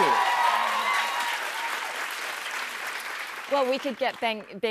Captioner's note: cheers and applause